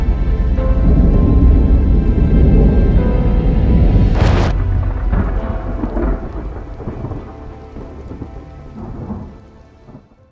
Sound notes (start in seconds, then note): 3.9 thunder cracks